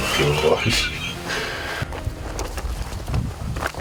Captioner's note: laughs